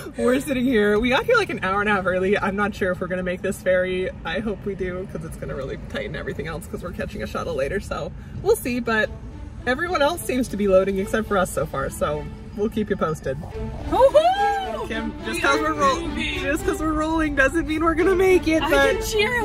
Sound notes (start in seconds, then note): 14.0 cheers